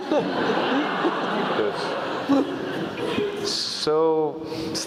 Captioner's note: laugh